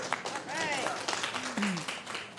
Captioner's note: applause